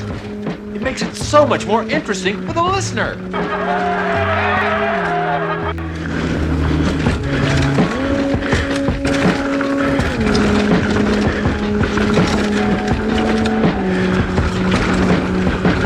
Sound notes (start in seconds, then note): 4.8 laughs